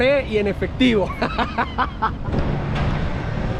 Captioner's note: laughter